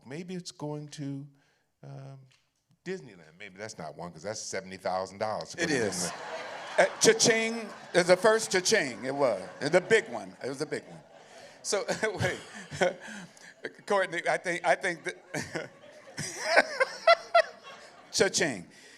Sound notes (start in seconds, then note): 5.9 laughter; 15.7 laughs